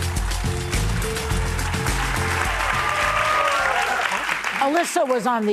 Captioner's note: upbeat music; audience cheering